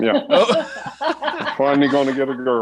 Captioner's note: everyone laughs